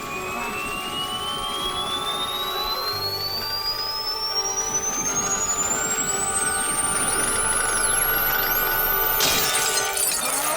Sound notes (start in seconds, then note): 4.6 tone amplifies